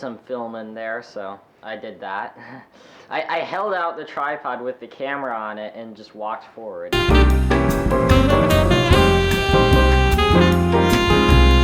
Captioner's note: chuckles